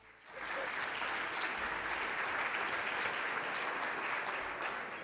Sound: audience applauding

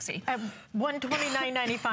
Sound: coughing

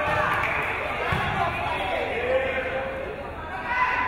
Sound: crowd cheering

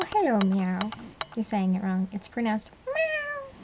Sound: meow

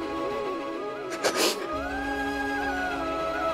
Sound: Pakiya sobbing

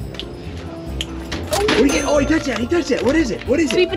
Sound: register dings

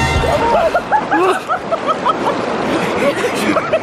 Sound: laughing

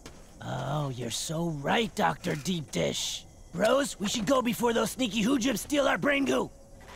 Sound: none

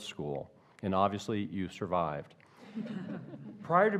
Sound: laughter

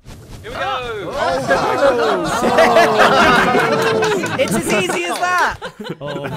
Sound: collective applause

